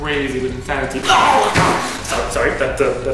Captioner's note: Murlock noises